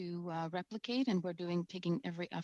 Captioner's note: speaking French